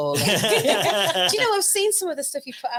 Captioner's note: audience laughing